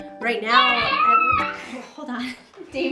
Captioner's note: boy screaming